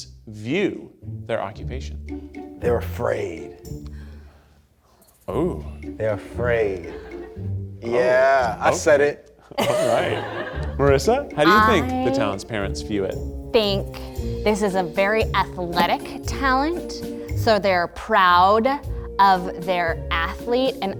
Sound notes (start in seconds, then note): 9.6 audience laughs